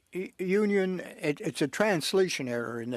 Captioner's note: speaking French